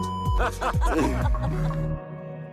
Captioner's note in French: ils rient